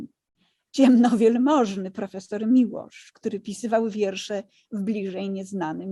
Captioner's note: speaking in foreign language